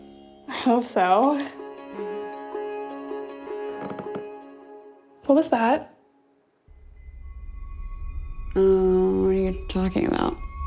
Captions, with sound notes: - I hope so. (energetic music) (floor board creaks) What was that? - Ah, what are you talking about?